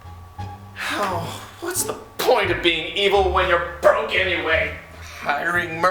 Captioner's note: sigh